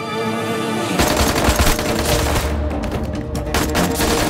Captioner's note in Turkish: Silah sesleri